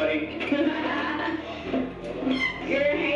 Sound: Jamie laughing

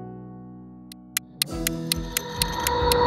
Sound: clock ticking; dramatic music

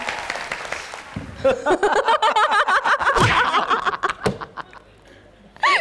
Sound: laughing

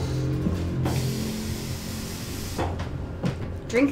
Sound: water running

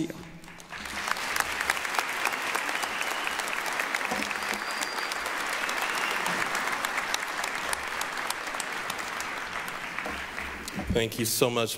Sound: applause

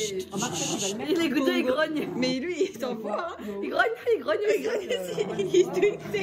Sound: growling from both sides

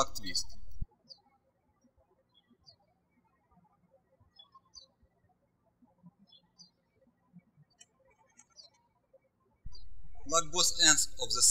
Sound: birds chirping

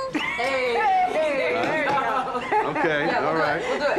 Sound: both laugh

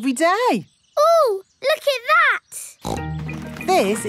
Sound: snorts

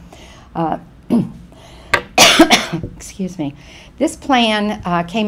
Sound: coughs

